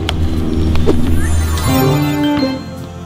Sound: magic chime

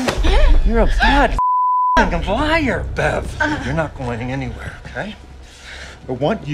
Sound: beeping

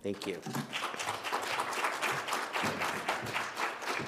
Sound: audience claps

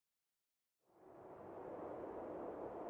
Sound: wind howling

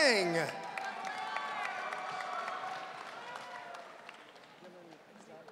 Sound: audience cheering

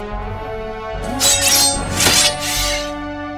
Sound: blades swish and clang

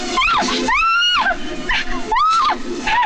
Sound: screaming

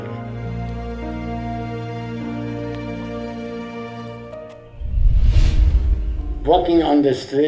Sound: soft poignant music; scene whooshing

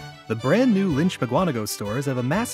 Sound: voiceover

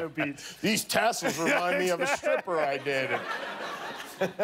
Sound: laughter

